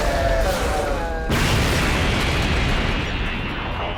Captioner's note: Super Android 13 screaming; kaboom